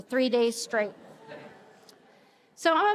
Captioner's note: attendees laughing